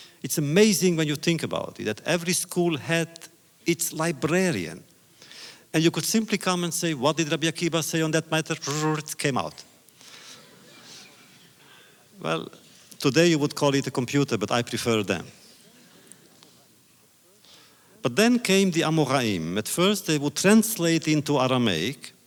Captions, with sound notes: It’s amazing when you think about it; that every school had its librarian. And you could simply come and say, “What did Rabbi Akiva say on that matter?” (makes sound effect) It came out. (audience laughter) Well, today you would call it a computer, but I prefer them. But then came the Amoraim, at first they would translate into Aramaic